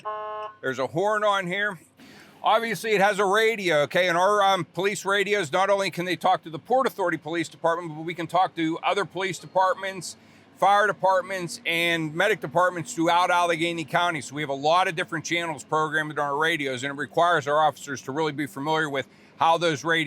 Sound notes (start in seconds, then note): 0.0 siren sound; 0.0 horn sound